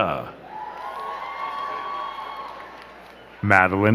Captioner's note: crowd cheering and clapping